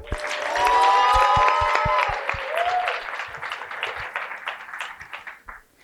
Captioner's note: cheering and applause